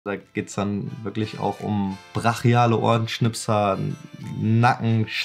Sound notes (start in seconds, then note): 0.0 speaking foreign language